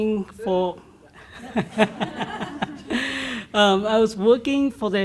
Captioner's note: laughs